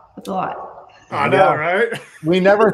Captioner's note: laughing